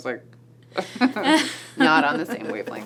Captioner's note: laughs